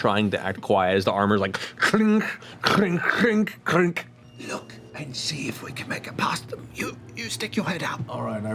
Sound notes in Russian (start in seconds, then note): 4.2 звон